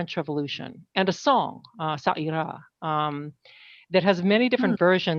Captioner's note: speaking french